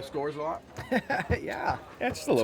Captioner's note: laughs